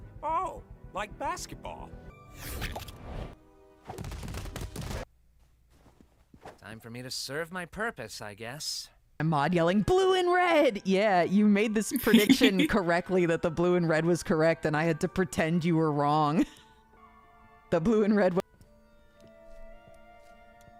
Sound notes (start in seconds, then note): 2.4 stretchy sound effect; 4.0 Gangle clipping noises; 12.0 laughs